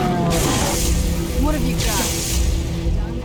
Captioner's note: zap